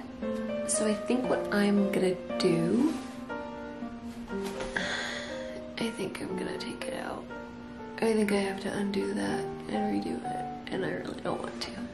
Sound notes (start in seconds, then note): 4.7 sigh